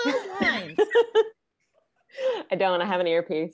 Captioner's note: all laughing